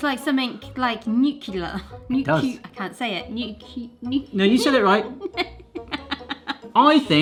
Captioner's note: laughter